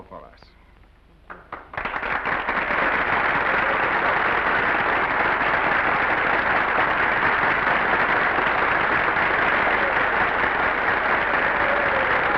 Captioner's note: audience applauds